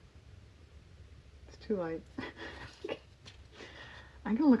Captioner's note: laughs